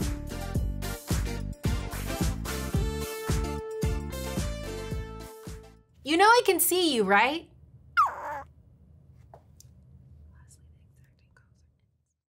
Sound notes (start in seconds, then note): 0.2 upbeat music continues; 8.0 bunny squeals